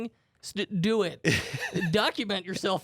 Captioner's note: laughs